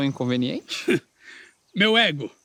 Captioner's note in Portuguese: riso